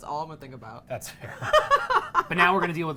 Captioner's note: laughing